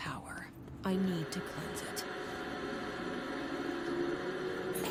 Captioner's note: static